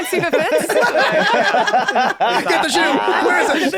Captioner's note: laughter